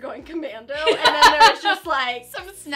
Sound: laughing

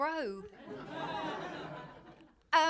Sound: laughter

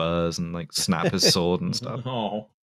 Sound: light laughter

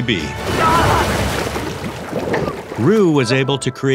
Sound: Augustine yells

